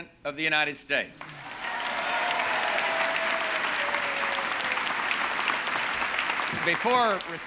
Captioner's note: audience cheering and applauding